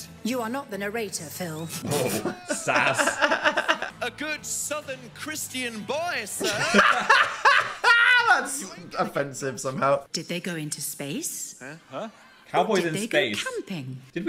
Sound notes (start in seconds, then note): 1.8 Dan laughs; 6.4 both laughing